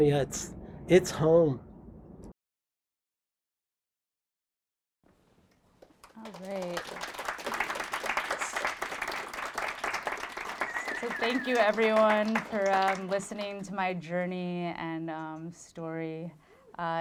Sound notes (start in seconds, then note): 5.7 applause